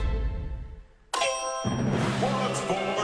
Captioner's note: ding